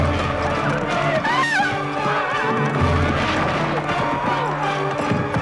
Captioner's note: villager screaming